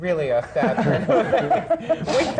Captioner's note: laughter